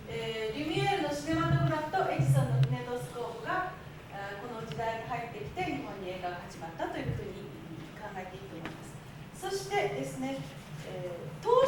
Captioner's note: speaking Japanes